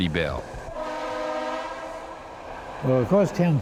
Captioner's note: trolley whistle blowing